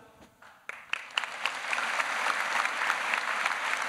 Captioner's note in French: Applaudissements